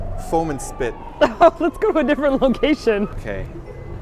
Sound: laughs

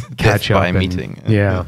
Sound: laughter

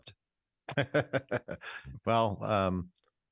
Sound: laughing

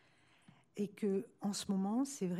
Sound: speaking french

